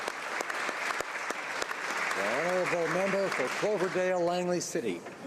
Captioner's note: applause